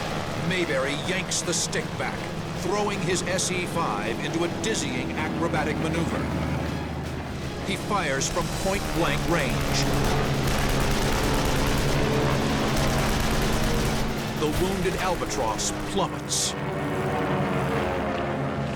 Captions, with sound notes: Maybery yanks the stick back, throwing his S.E.5. into a dizzying acrobatic maneuver. He fires from point blank range. [weapons firing] The wounded Albatross plummets. [plane crashing]